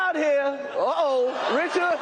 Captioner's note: laughs